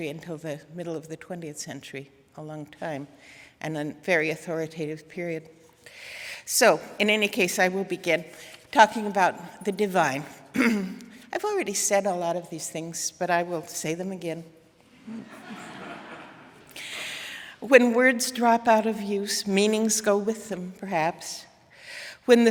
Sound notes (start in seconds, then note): 15.0 audience laughing